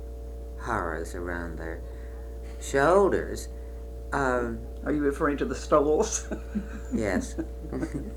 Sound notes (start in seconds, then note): 6.0 laughs; 6.0 laughter